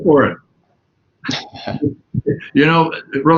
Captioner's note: laughs